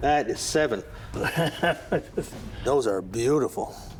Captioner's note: laughing